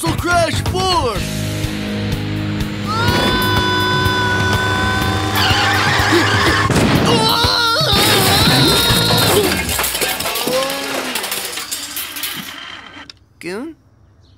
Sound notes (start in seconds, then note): 2.8 screaming; 7.4 crashing; 8.4 screaming; 11.4 grunting